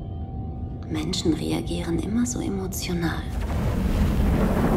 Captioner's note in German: flüsternd